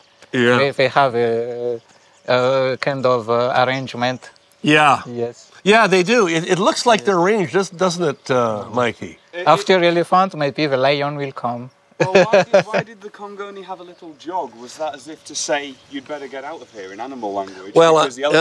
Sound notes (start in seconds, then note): 11.9 chuckle